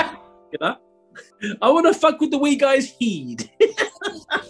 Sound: bad scottish accent; laughing

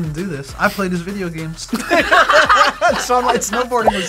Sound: both laugh

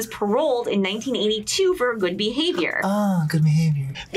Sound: sarcastic

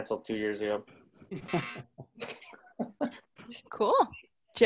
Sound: laughing

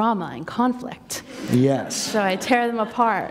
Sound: laughter

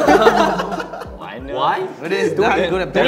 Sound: members laughing

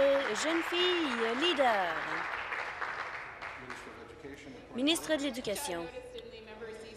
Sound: applause

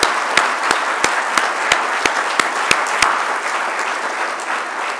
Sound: applause

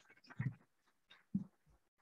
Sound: none

